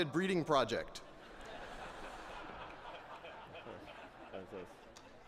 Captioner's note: laughter